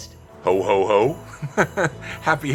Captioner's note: laughs